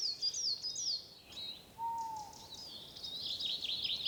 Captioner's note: owl hoots